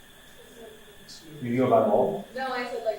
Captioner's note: students murmur